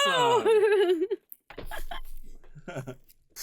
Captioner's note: laughing